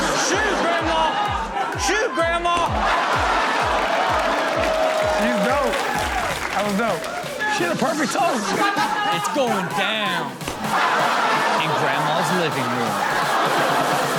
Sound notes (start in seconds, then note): 3.0 audience exclaiming; 4.2 audience cheering; 10.4 audience laughing